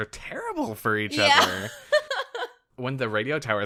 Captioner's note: laughs